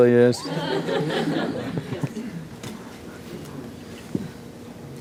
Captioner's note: laughter